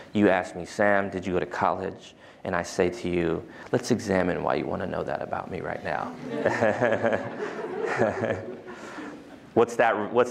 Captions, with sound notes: You ask me, Sam, did you go to college? And I say to you, let's examine why you want to know that about me right now. [LAUGHTER]